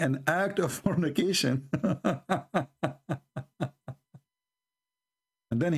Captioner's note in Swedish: Skratt